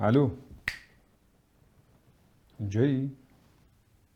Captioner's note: snaps fingers